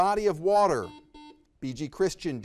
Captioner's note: buzzer beeps